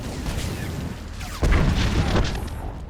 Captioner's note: explosion